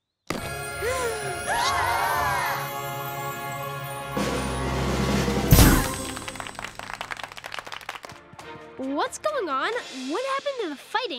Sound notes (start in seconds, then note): 0.5 gasping; 4.2 drumroll; 5.9 clapping